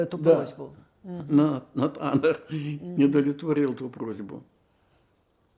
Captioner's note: laughing